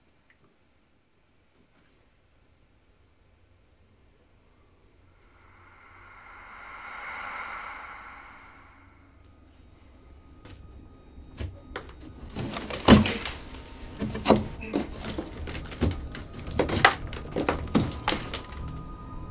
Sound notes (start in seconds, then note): 5.5 dramatic music; 12.7 drywall cracking